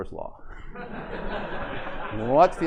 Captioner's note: laughter